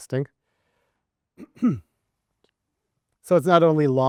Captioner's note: coughs softly